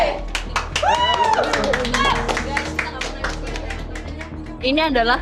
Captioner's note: crowd applauds; indistinct chatter